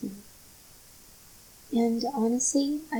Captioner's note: biiig gap of silence here